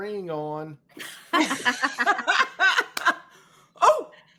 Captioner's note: all laughing